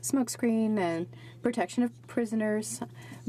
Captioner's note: speaking French